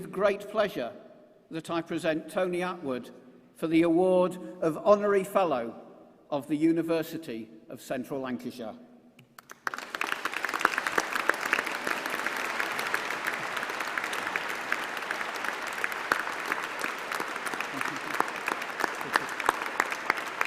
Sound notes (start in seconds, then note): 11.4 applause